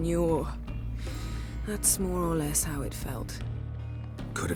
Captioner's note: inhale